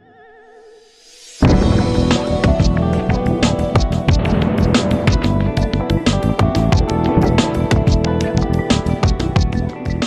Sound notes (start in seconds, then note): 1.3 light contemporary music; 1.4 rig booms